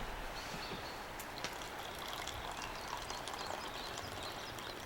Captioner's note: morning birds singing